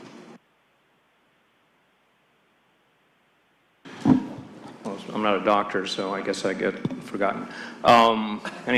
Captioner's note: laughter